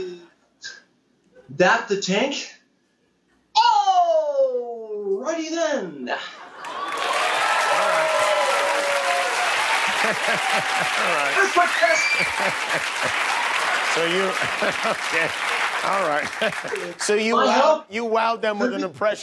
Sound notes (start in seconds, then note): 14.5 cheers and applause